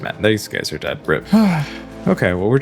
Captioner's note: sighs